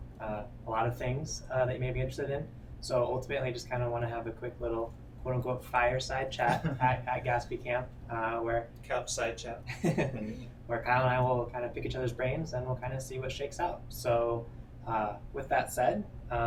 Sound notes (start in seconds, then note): 9.6 chuckles